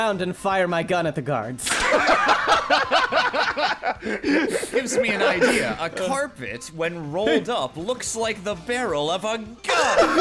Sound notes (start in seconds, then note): 1.8 gunshot; 2.0 laughing